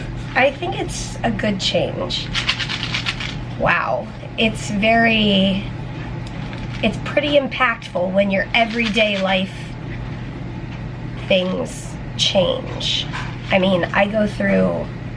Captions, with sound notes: I think it's a good change. [pills rattling] Wow, it's very... It's pretty impactful when your everyday life... things change. I mean, I go through...